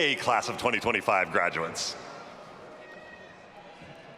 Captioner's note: none